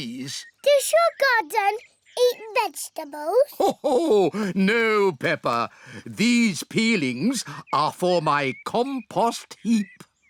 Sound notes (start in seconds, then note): 3.4 laughs